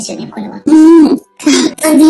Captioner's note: laughs